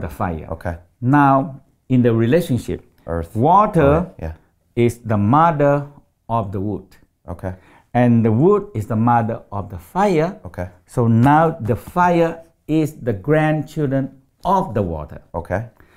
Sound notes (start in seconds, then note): none